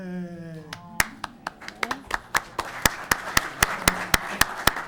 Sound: audience clapping

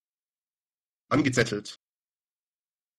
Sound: fast Pronunciation

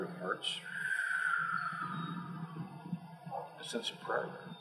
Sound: exhale

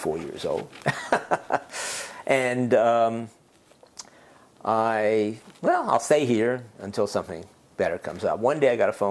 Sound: laugh

